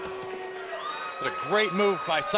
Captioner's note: crowd chatter